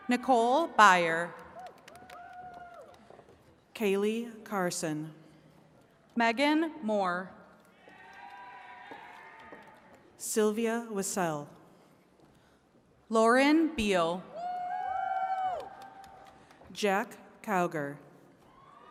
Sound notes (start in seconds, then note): 1.3 attendees cheering and clapping; 7.8 attendees cheering; 14.3 attendees cheering and clapping